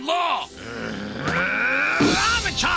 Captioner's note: growls